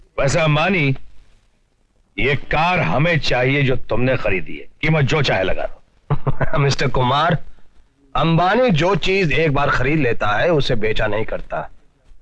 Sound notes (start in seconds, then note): 6.1 softly Laughing